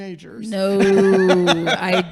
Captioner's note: laughing